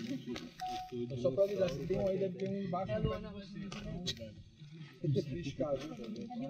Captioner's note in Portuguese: risos